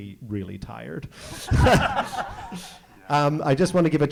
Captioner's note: audience laughing